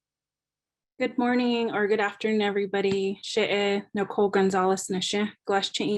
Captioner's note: speaking in indigenous language